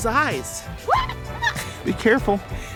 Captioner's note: screaming